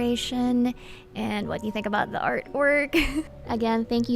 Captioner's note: laughs